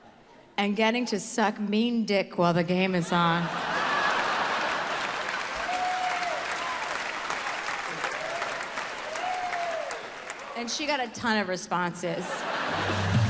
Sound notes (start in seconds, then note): 3.3 audience laughs